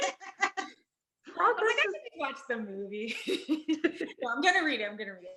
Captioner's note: laughing; laughs